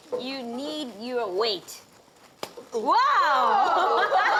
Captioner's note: plastic snaps; all gasping, laughter